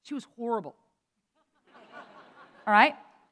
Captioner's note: laughter